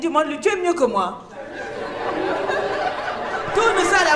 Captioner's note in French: rires